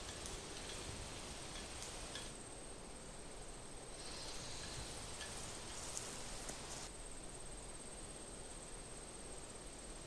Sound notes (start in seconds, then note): none